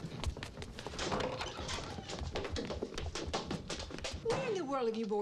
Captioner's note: footsteps pattering; door clunks